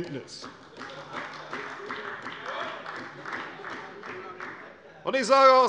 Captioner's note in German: Beifall bei der CDU und dem BÜNDNIS 90/DIE GRÜNEN